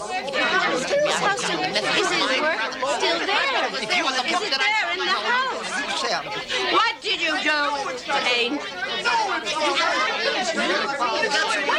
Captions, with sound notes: [arguing loudly] - What did you do with his painting?